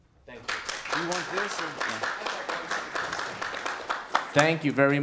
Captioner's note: applause